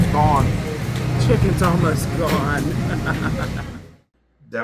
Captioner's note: laugh